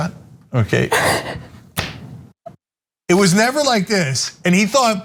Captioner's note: laugh